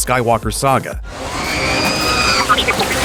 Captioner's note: R2 screams